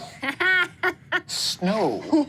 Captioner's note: laughs